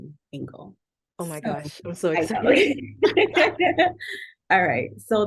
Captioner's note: laughter